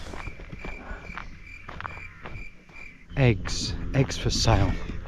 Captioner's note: crickets chirping